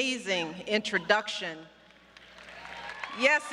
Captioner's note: applause